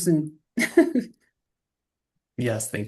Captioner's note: laughter